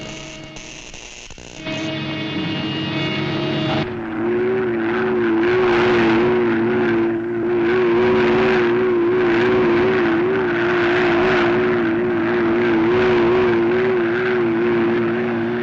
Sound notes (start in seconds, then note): 0.0 electricity zapping; 4.3 engine rumbling